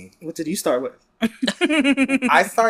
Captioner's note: laughs